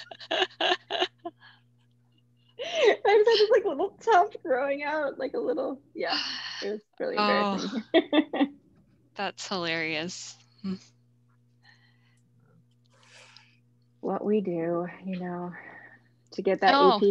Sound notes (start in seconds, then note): 0.0 laughs; 8.5 laughs